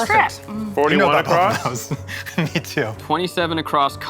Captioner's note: laughing